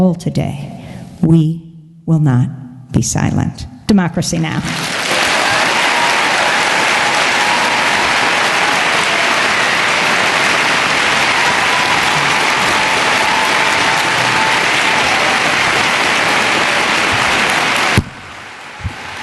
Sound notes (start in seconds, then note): 4.7 cheering and Applause